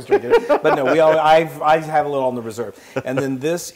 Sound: laugh

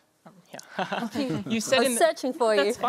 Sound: chuckles

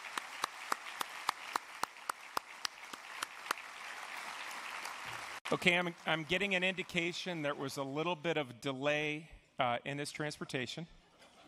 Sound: applause

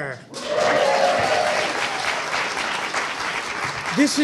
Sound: audience cheering

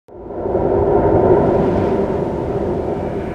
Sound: wind blowing

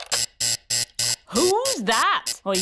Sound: alarm buzzes

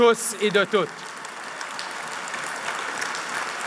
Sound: applause

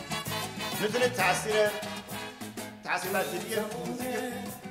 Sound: speaking in farsi

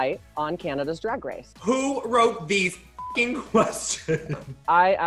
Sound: beep

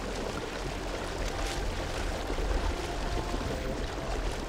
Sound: water splashes

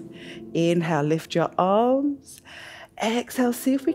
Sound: inhales

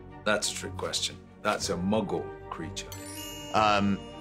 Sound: magical chime

